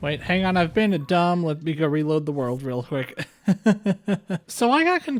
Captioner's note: laughter